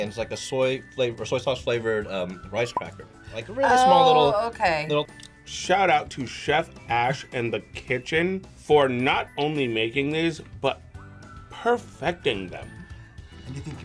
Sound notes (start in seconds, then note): none